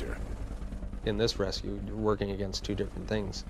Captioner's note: voiceover